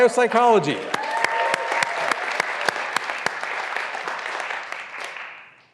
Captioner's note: graduands cheering and applauding